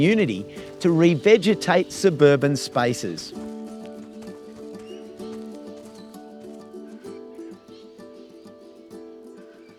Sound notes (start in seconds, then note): 3.3 footsteps; 6.3 birds calling; 8.0 music fades